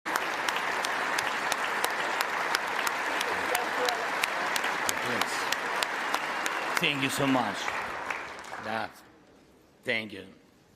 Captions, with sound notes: PRESIDENT OF THE UKRAINE. [ APPLAUSE ]